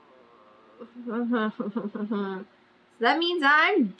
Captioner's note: laughs